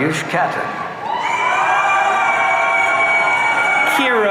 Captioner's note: audience cheering